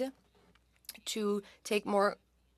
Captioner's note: speaking French